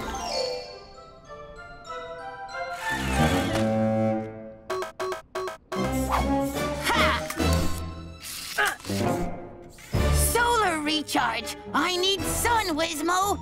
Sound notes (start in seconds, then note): 0.0 fun music; 2.6 intense music; 4.7 charger beeping